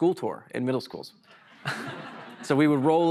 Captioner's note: laughter